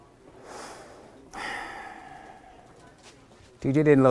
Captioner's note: David sighing